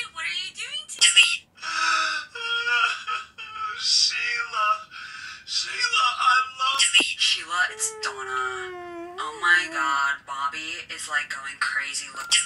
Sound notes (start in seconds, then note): 2.9 crying